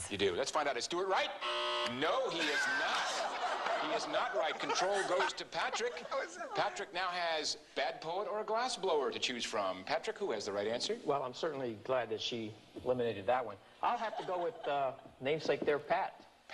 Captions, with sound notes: -You do. Let's find out. Is Stuart right? (buzz) No he is not. He is not right. Control goes to Patrick. Patrick now has bad poet or a glass blower to choose from. Patrick who has the right answer? -Well I'm certainly glad that she eliminated that one. I'll have to go with my namesake there, Pat.